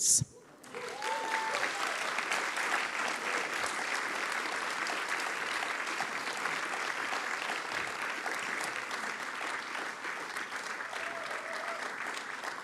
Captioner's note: applause